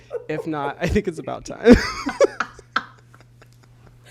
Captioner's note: both laugh